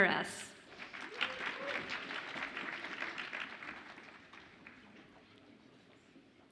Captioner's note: audience applauds and cheers